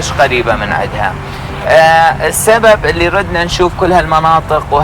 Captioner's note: speaking Arabic